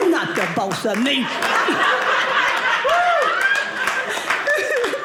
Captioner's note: audience laughing